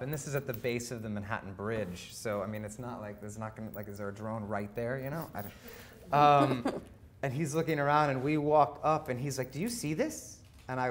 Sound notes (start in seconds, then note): 6.3 laughing